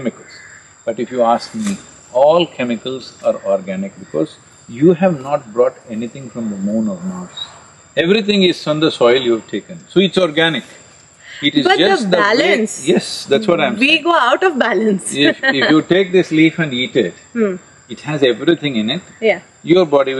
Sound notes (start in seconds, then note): 15.1 laughs